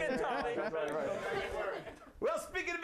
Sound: bomb falling, explosion

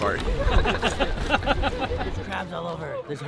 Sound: multiple people laughing

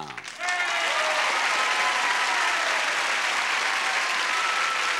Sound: audience cheering

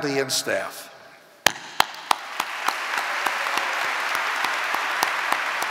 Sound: audience applauding

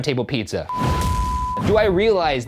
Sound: beep

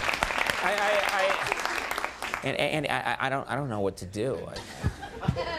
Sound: stammering

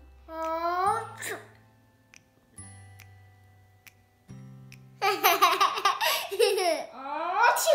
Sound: fake sneeze; laughter

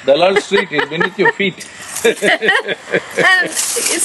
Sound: both laugh

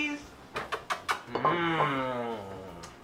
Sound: kisses

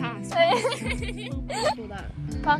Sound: laughter

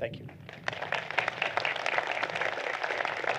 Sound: applause

